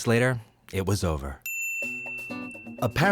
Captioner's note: timer ding